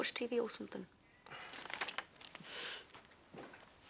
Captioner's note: menghela napas